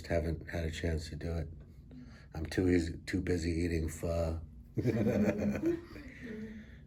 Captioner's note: all laugh